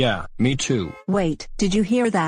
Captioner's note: car horn honking